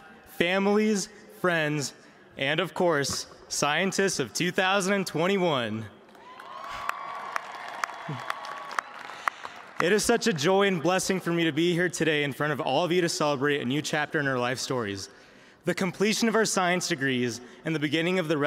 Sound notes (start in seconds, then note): 9.8 cheers and applause